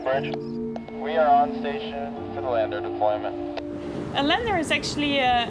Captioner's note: radio